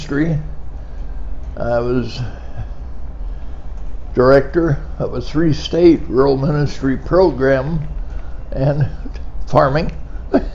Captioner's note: laughing